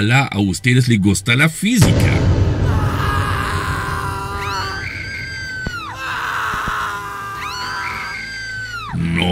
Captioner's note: screams